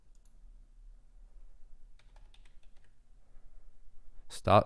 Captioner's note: clicking and typing